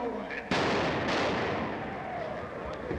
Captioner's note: explodes